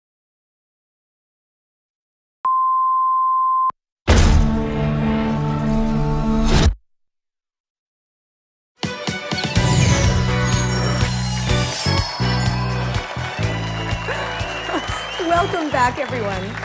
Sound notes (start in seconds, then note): 10.4 studio audience applauds